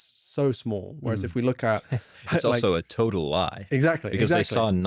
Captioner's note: laughs